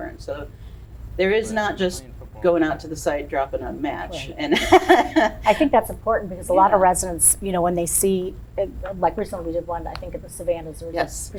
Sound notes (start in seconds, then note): 4.1 laughs